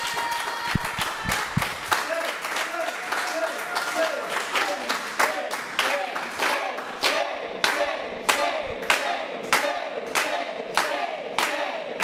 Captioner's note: applause